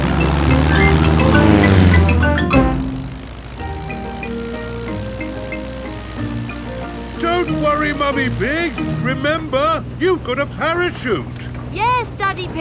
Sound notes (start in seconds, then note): 1.3 plane engine revving